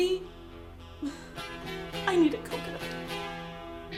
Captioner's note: sigh